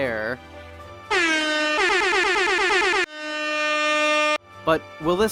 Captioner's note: airhorns